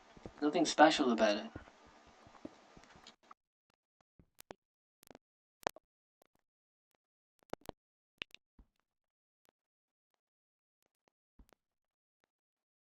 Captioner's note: audio missing